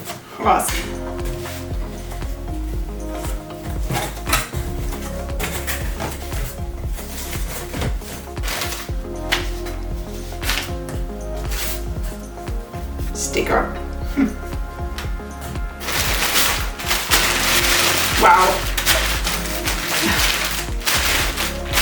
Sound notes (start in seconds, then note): 14.9 sound of rustling plastic; 18.6 more rustling and laughing